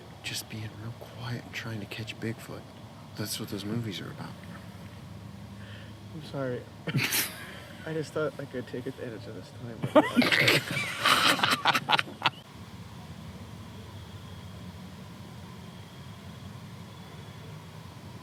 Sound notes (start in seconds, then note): 7.1 sniggering; 9.8 laughing; 13.6 crickets chirping